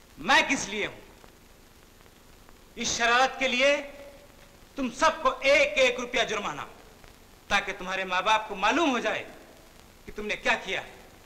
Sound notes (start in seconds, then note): none